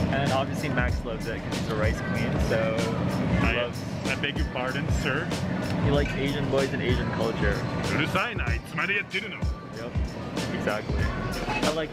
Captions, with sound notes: And obviously Max loves it 'cause he's a rice queen. - I beg your pardon, sir? - He likes Asian boys and Asian culture. (speaking in foreign language) Yep, exactly.